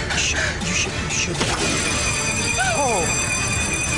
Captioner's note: alarm ringing